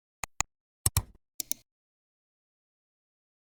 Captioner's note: 3 different clicks